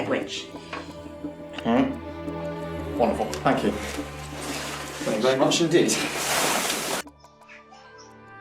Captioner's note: writing down in notebook